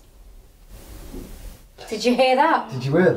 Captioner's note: gentle thudding